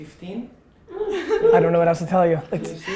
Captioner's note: people laughing